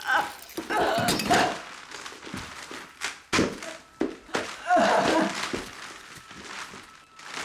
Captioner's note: chuckling